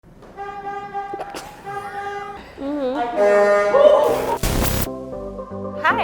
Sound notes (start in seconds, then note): 0.2 horn honking; 1.0 laughing; 3.0 laughing and horn honking; 4.4 upbeat music